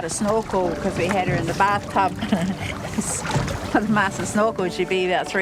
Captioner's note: laughs